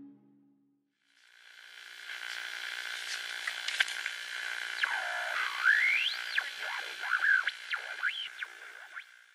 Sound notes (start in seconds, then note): 1.1 electric buzzing